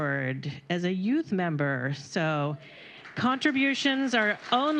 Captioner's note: applause